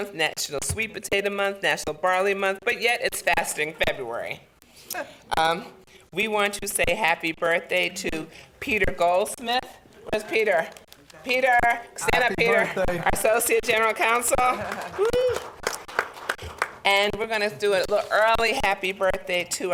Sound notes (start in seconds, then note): 4.9 woman chuckles; 14.4 applause; 14.5 laughter